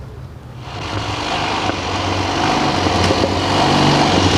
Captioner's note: motor running